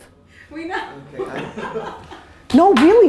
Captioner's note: group laughing